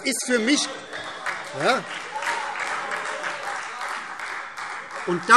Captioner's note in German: Demonstrativer Beifall Freie Demokraten